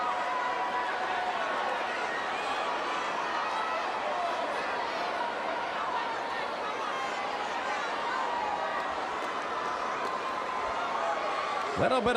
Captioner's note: crowd cheering